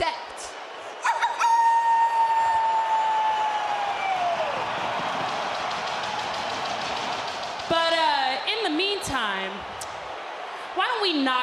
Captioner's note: howling